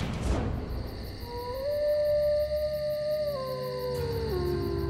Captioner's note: howling